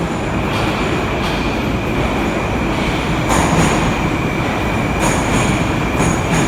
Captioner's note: arrival of train at the station